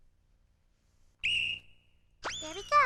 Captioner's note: whistle blows